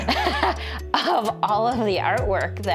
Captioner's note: both laugh